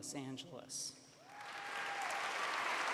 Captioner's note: cheers